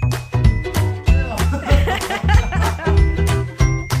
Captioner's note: both laugh; music fades